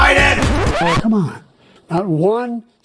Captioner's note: record scratch